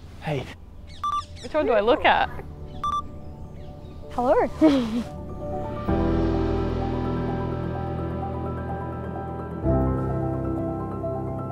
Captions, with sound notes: - Hey. - Which one do I look at? - Hello! (laughs) (upbeat piano music)